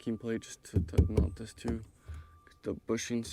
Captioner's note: palm thumping; finger tapping